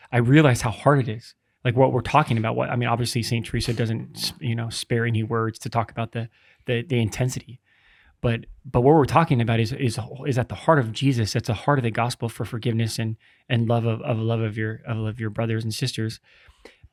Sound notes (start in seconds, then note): none